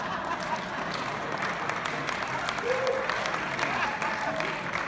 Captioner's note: clapping